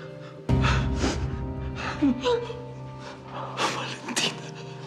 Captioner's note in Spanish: sollozos